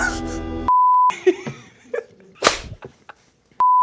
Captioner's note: laughing